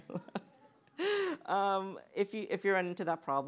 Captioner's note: laughter